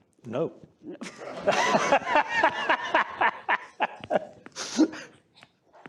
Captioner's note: laughter